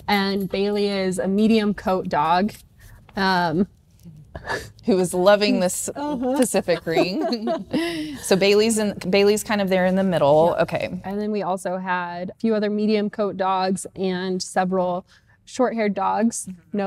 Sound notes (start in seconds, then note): 6.0 laughing